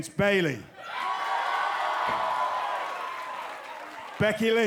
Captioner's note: crowd cheering